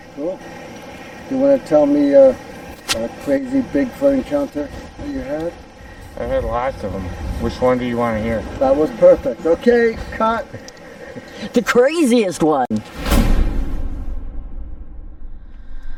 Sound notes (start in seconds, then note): 9.9 chuckling; 12.9 dramatic music